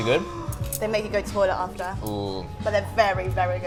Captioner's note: gasps